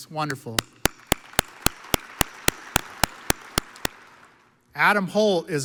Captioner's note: audience applauds